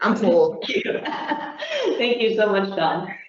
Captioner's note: chuckling